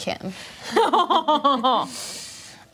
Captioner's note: groans